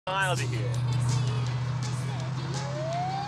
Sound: police siren

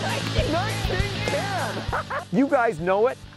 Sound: both cheer

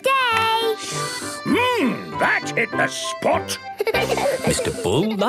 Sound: slurping; giggling

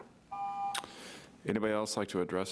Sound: buzzer rings

